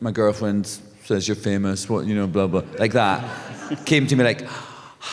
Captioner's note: laughter